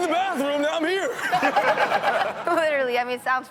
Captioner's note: all laughing